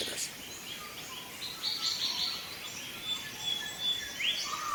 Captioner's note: birds chirps